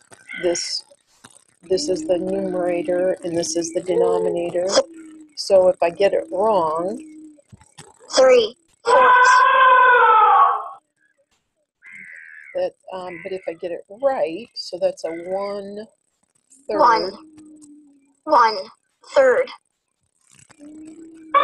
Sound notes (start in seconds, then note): 8.3 voiceover; 8.9 elephant trumpeting; 17.5 voiceover